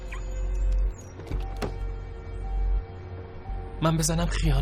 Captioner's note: car alarm beep; car door opening